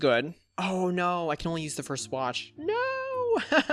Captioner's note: laughs